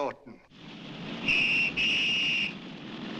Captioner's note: police whistle blows